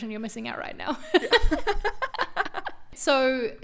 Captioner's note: both laugh